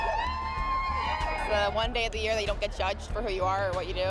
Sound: cheers and Applause

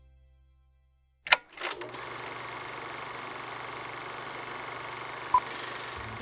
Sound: projector clicking

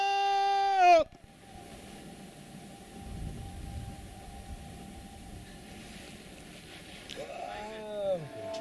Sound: long echo

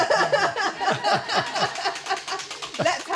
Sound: wheel clacking

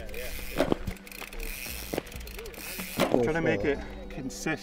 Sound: group chattering

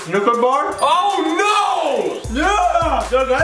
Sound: bell dings

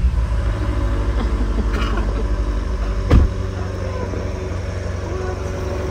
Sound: car engine

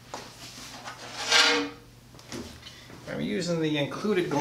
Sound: glass pane scraping across table

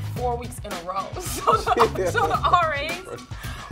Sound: people laughing

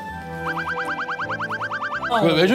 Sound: flapping

